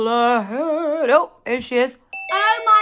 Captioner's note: doorbell